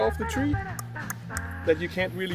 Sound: click*click*click

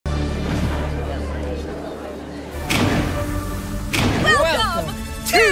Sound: crowd chattering

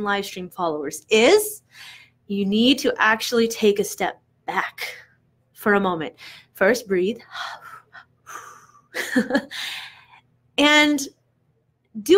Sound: breathes

